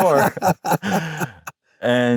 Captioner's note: both laugh